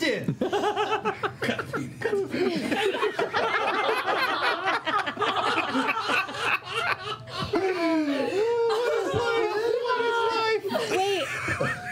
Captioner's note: laughter